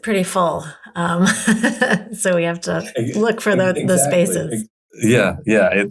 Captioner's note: chuckles